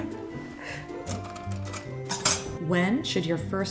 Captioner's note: laughs; cutlery clatter